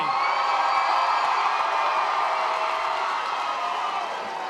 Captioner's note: audience applause